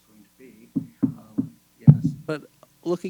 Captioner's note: knocking